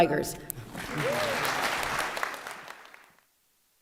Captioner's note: applause